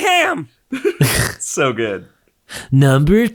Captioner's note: chuckles